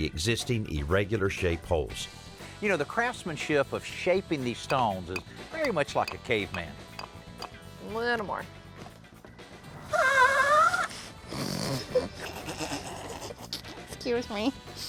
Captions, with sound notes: existing irregular-shaped holes. You know, the craftsmanship of shaping these stones is very much like a caveman. Little more. [ Nozzle squeals ] [ Both laugh ] Excuse me.